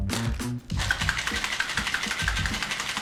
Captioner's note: ice shaking